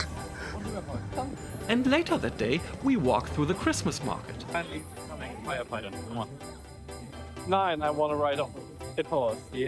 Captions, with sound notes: And later that day, we walk through the Christmas market. (speaking in German) Nine, I wanna ride on. It horse.